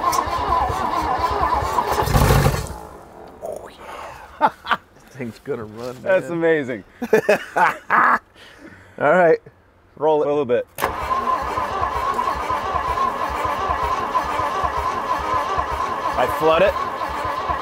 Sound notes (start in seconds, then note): 0.0 engine revs; 3.8 laughs; 6.9 laughs; 10.8 engine revs